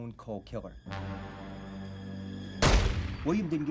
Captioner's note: dramatic music; gunshot fires